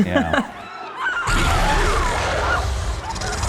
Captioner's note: screams